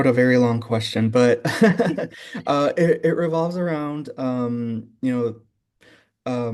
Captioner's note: laughing